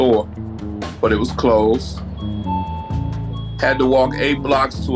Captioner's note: store's doorbell rings